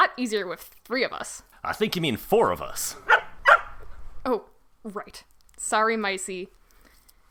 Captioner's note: barks